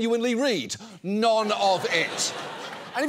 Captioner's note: audience laughs